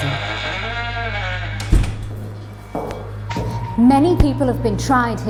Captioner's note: door slamming